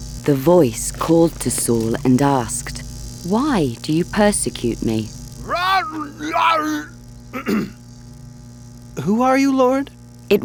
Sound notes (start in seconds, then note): 5.4 Saul roaring; 7.3 Saul clearing throat